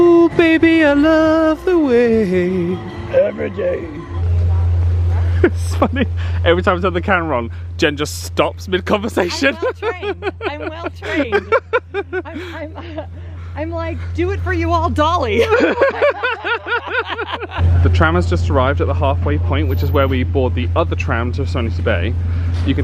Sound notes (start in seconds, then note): 11.6 laughing; 15.2 they laugh